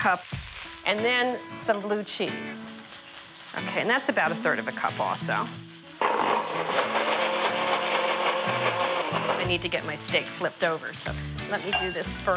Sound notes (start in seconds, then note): 6.0 blender whirring